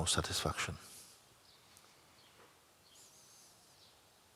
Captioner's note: silence